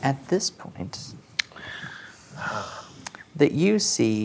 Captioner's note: inhales